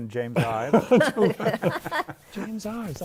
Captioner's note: laughter